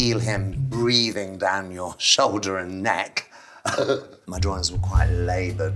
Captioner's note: laughs